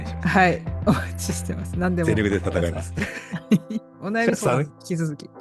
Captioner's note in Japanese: 笑い